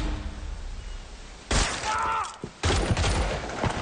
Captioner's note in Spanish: Disparo; Grito; Disparos